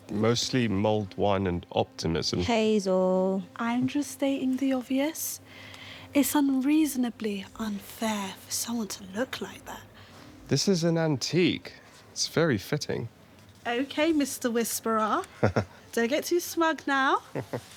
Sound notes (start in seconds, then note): 15.3 Nikolai chuckles